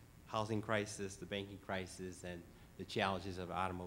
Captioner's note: none